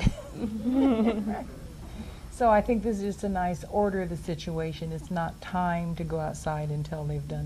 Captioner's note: laughs